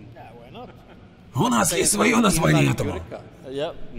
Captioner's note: sounds Swedish